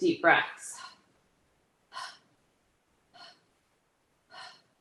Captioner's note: exhales